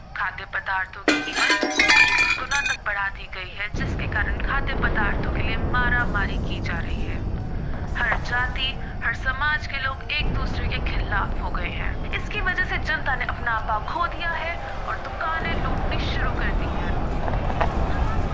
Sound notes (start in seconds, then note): none